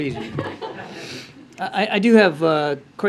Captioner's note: laughter